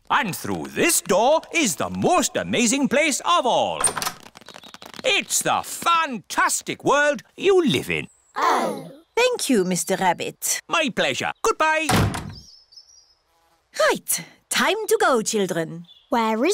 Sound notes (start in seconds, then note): none